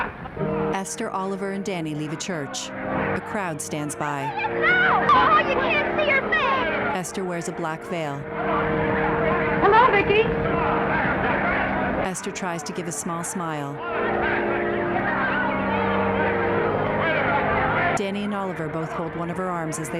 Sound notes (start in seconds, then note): 0.0 bartender cackling; 0.3 crowd shouting indistinctly; 7.2 crowd shouting indistinctly; 11.5 organ playing